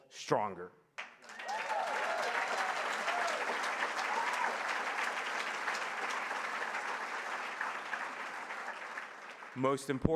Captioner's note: applause